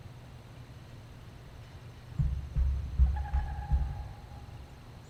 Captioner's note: pounding